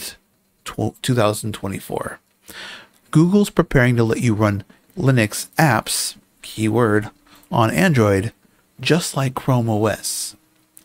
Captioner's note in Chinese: 英语